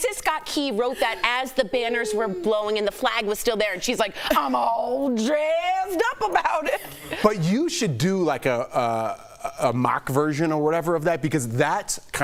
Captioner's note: laughter